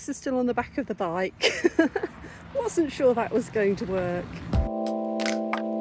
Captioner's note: laughter; chill music